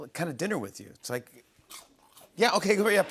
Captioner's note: munching